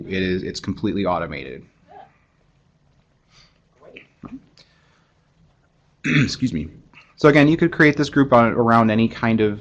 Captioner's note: cough